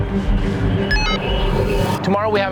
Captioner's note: radio beeps